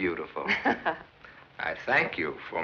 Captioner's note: laughs